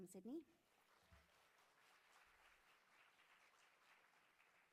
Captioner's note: audience clapping